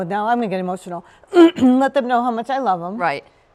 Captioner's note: clears throat